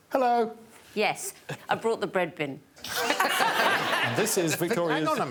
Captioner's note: audience laughing